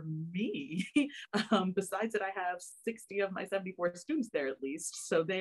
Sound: laughter

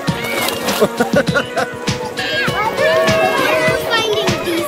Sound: laughing

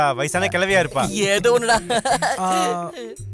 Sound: laughs

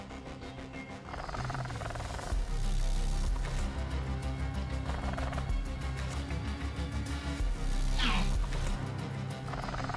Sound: Velociraptor chirping; intense music

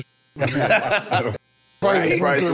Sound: everyone laughing amusingly

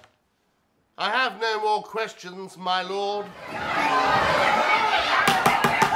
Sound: jeers from the crowd; judge bangs his gavel

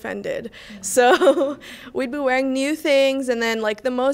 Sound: laughs

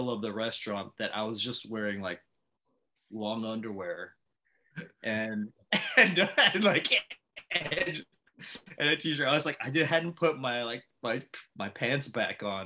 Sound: laughs

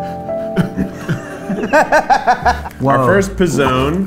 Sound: dramatic music; laughter

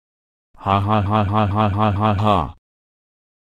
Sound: evil laughter

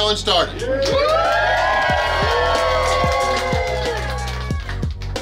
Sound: clapping & Cheering

